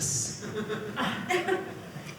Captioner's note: audience laughing